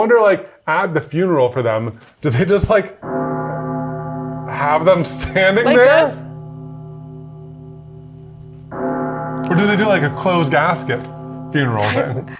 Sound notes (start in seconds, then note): 7.3 bell tolling